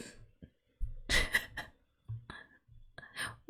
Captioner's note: laughs